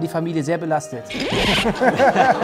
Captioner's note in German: Lachen